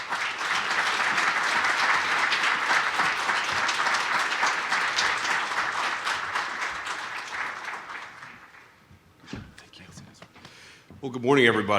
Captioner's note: applause